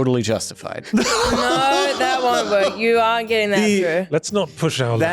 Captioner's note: laughter